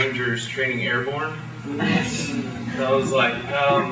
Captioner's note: laughter